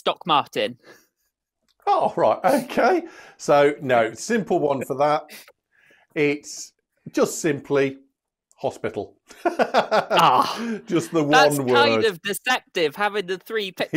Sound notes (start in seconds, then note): 9.4 laughs